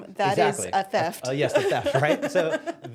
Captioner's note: laughing